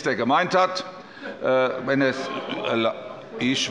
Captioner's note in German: Zurufe von der SPD